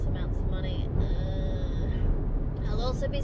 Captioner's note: groans dramatically